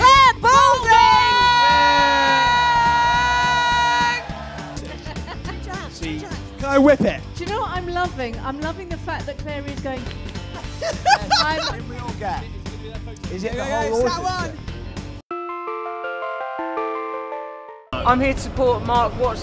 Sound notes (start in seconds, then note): 10.5 laughter; 15.3 ice cream truck noise